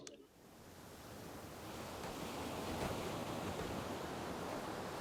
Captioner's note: waves crashing